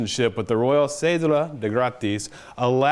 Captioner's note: speaks foreign language